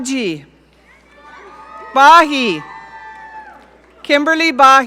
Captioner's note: audience cheering